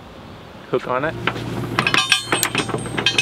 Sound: metals cluttering

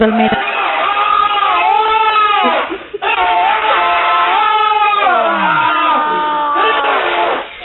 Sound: screaming

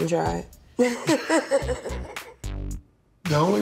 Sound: laughs

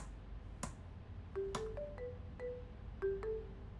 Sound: phone rings

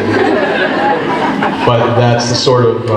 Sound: group laughs

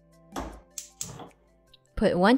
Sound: stove thuds and clicks

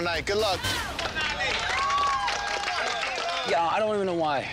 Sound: crowd cheers and clap

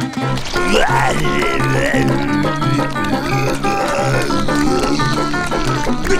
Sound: growling

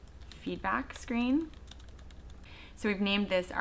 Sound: types on keyboard

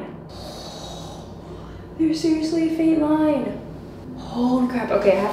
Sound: gasps

